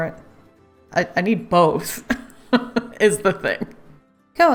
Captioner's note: laughs